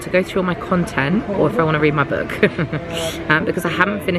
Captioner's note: chuckles